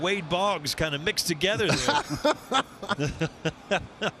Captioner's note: laughter